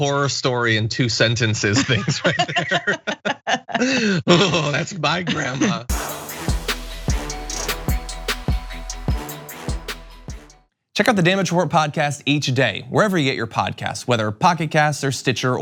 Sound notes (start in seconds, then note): 1.8 laugh